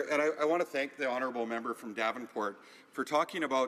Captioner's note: speaking French